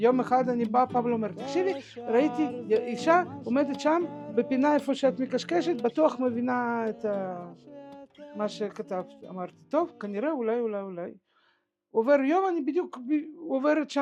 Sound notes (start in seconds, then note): 5.7 words in Russian